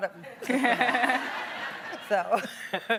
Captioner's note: laughing